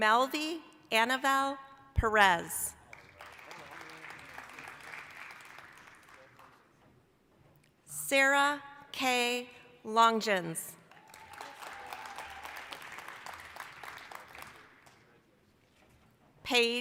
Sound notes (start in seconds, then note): 2.8 applause; 10.8 applause, cheering